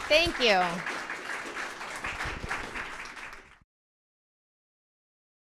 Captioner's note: attendees applauding